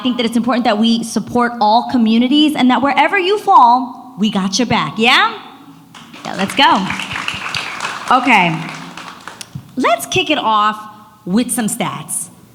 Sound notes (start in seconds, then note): 5.9 audience applauds